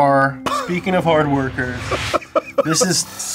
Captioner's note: laughs